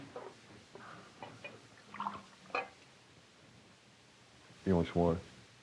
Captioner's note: water pouring